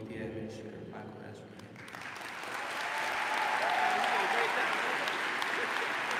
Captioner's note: applause